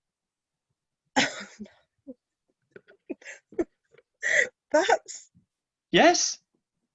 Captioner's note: laughing